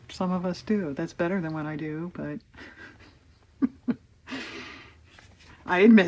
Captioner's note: laughs